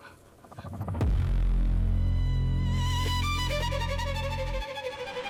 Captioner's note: dramatic rumbling